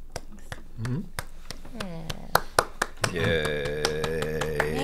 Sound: claps

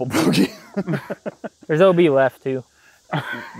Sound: laughs

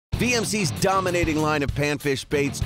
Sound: voiceover

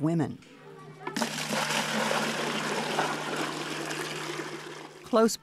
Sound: water splashing

